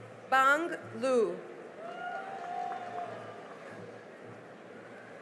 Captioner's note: cheering and applause